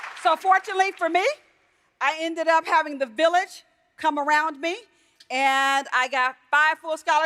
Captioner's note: applause